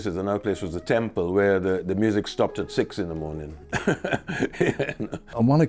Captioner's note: laughs